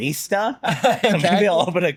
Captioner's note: both laughing